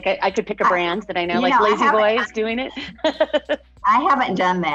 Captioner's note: laughs